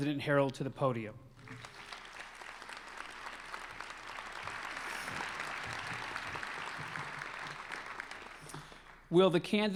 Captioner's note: applause